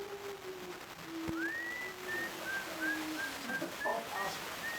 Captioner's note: Geoff whistling